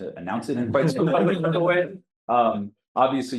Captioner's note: audience Laughter